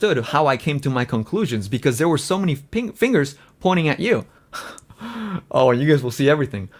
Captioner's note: laughs